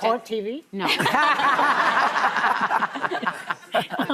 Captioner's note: laughter